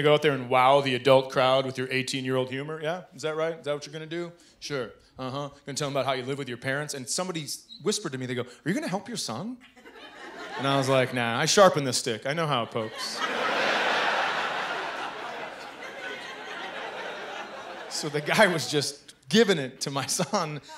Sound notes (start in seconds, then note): 12.8 laughter